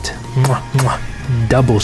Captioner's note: kissing sounds